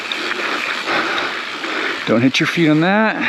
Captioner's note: bike wheel skirts